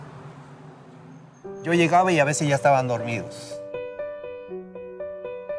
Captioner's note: speaking in Spanish